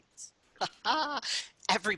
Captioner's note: laughs